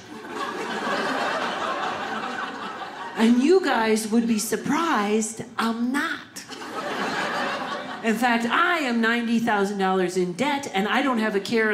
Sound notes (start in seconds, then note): 0.0 audience laughing; 6.5 audience laughing